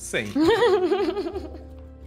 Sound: laughs

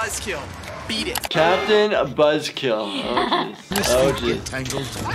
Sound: laughs

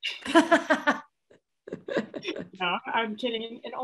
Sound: laughs

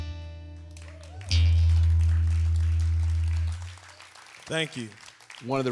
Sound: song ends; applause

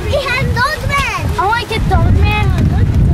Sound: children exclaiming excitedly

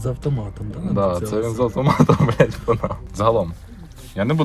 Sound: laughs

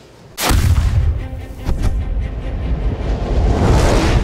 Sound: air whooshing

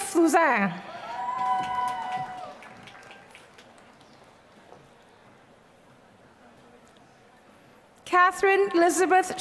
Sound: applause

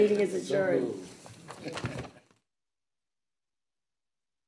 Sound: people chuckling

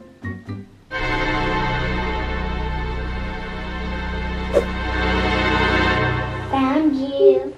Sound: tense orchestral music; whooshes

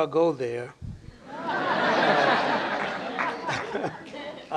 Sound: laughter

